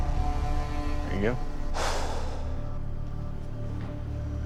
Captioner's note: exhales